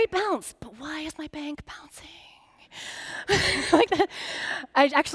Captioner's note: laughing